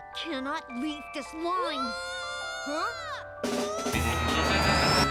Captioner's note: child yelling